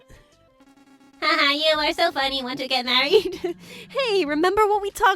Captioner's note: laughs